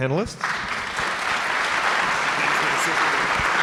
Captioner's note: audience applauds